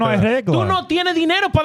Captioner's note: speaking In Foreign Language